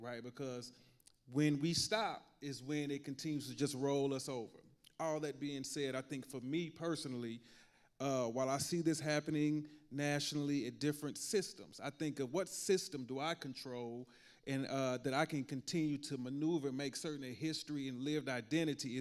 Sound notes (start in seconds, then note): none